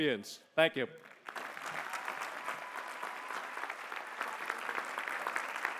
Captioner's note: applause